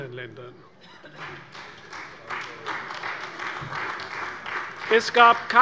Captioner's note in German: Beifall bei der CDU